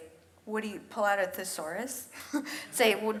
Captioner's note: chuckles